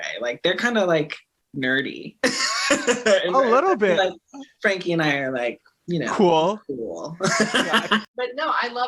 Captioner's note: laughing